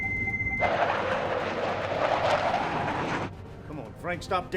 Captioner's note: aircraft whooshing